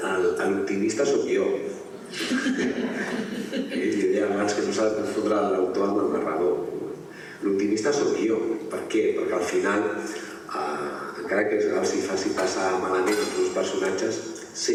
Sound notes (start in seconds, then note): 2.1 laughter